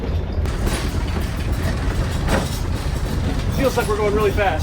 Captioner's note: metal rattling